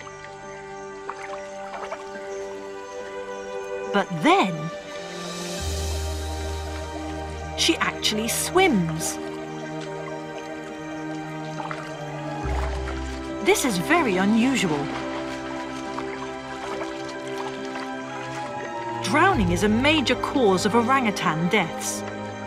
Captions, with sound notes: (dramatic music) (water rustling) But then, (bright upbeat music) she actually swims. (water rustling) This is very unusual. (bright upbeat music) (water rustling) Drowning is a major cause of orangutan deaths,